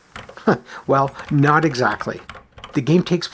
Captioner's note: chuckle